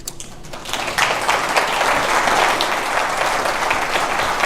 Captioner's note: audience applauds